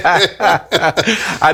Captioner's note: laughing